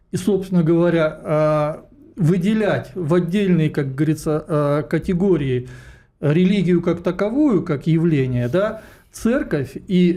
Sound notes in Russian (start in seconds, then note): none